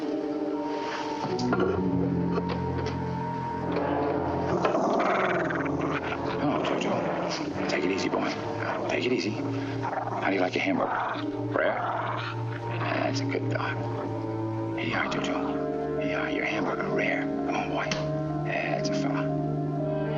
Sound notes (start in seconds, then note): 4.2 Jojo growling